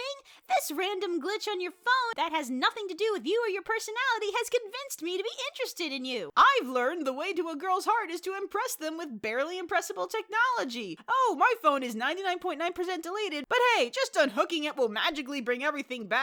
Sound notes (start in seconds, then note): none